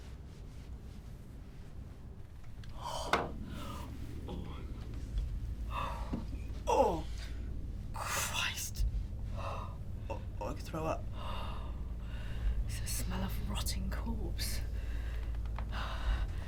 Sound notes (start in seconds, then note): 2.6 low tense music; 2.7 gasps